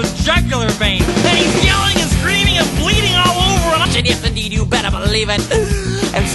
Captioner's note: reverse sigh